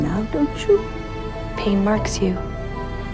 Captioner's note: voiceover